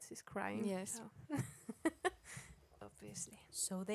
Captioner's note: chuckles